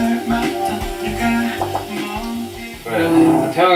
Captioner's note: nom, nom